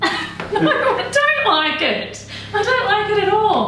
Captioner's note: laughs